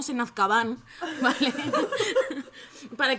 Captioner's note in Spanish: risas